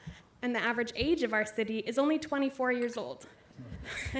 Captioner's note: laughter